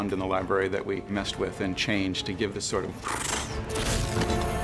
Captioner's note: imitates portal closing